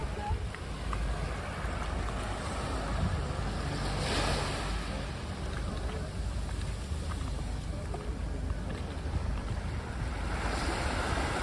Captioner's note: sound of waves breaking on the shore and wind throughout